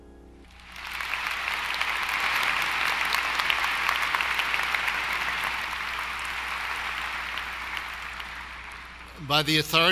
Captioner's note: applause